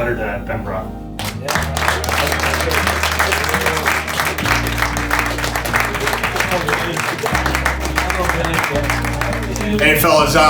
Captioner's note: applause